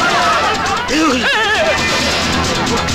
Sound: gasps

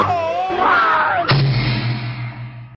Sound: boom

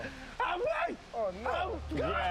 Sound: shouts

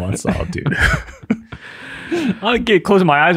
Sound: all laugh

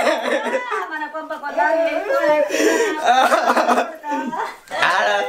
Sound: crying continues

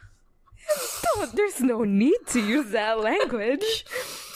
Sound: both laugh

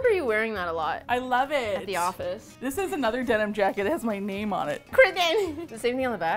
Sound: excitedly

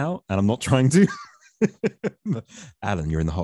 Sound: chuckles

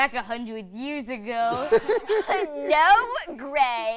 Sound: laughter

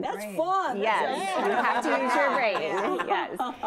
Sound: women laughing

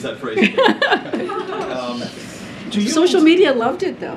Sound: laughter

